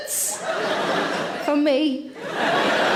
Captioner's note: audience laughing